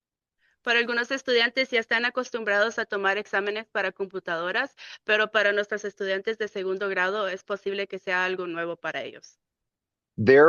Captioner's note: speaking in Spanish